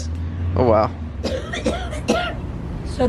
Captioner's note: coughing